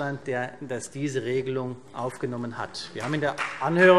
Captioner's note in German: Beifall CDU